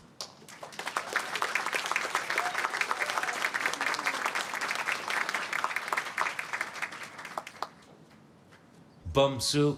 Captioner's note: applause